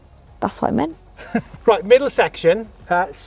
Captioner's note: laughs